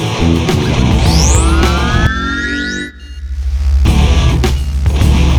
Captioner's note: power-up whirring